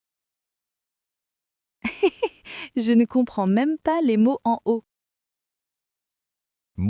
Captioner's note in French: rire